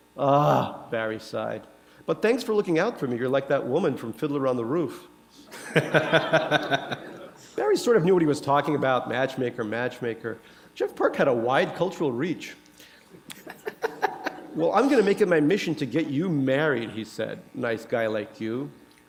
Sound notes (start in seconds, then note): 5.5 laughter